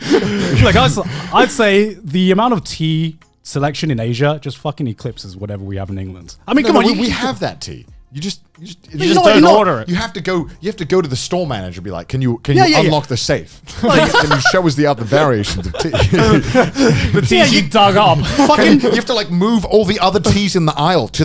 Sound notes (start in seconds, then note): 13.7 laughs; 15.0 chuckles